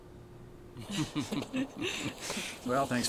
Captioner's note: laughing